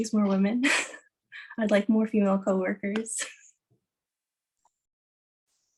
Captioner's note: chuckles; chuckles